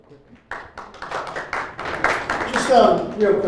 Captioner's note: applause